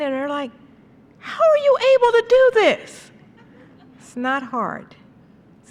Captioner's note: laughter